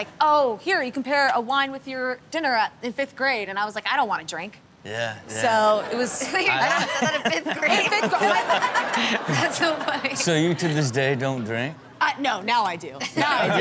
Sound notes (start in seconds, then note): 5.6 audience laughs; 8.4 host and audience laughs